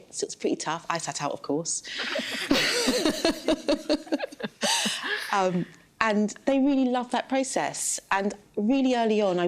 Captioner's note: laughter